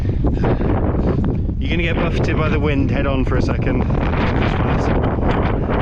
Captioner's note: raises voice